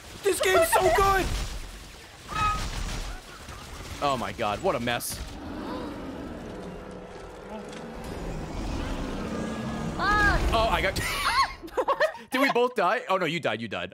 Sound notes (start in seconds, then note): 5.6 laughs